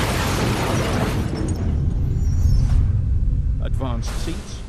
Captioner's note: breaking glass